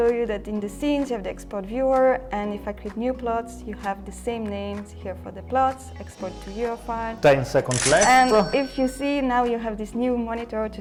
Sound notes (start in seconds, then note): 7.7 cash register cha-ching